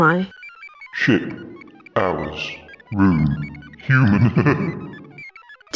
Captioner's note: laughs